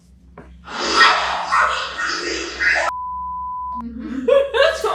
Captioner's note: disembodied Voice; laughs